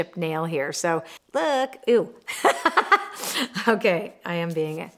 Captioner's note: laughing